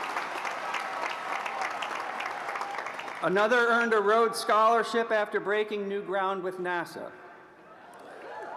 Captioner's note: applause